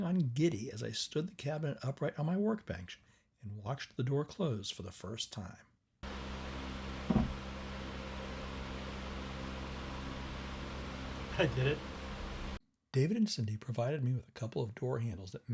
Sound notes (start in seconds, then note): 8.9 fans humming